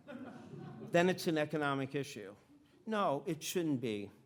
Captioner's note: audience laughing